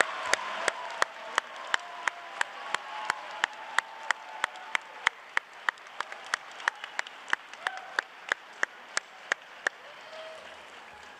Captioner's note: cheering and applause